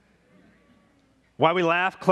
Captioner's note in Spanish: murmullos de congregación